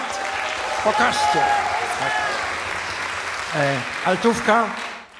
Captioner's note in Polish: aplauz